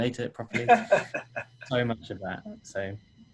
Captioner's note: laughing